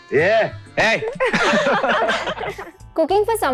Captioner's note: chuckles